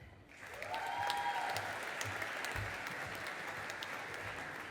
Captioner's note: audience applauding